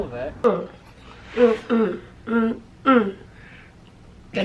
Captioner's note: humming